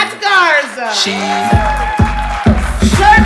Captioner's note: audience applauding